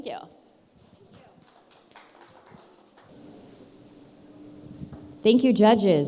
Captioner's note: soft applause